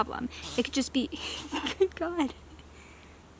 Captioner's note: cracks up laughing again because of the baby deer